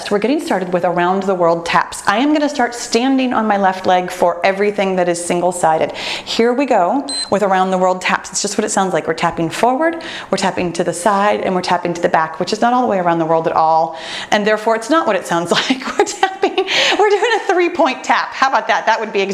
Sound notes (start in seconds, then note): 7.0 timer beeps